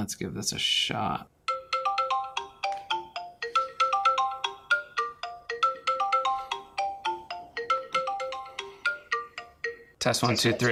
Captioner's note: phone ringing